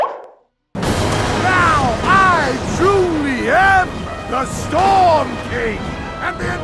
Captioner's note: lighting, thunder